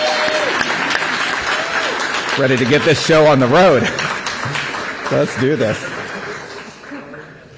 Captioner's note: applause